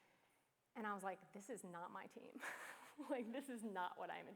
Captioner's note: chuckles